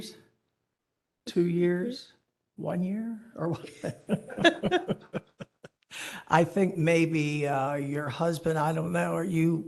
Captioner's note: laughter